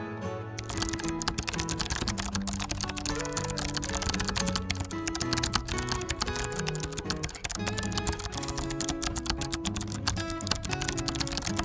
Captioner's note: keyword typing sounds